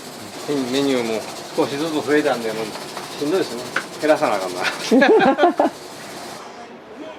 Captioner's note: laughs